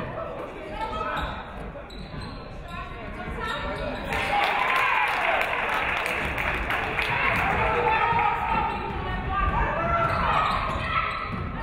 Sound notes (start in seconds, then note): 4.1 audience clapping; 4.1 audience cheering